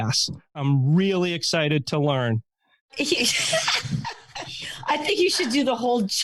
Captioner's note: laughing